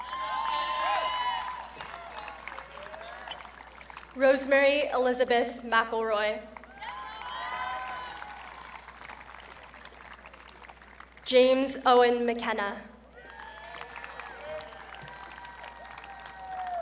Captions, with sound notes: (audience cheering) Rosemary Elizabeth McIlroy. (audience cheering) James Owen McKenna. (audience cheering)